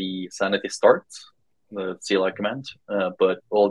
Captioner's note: speaking faintly off mic